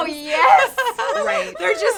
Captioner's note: all giggling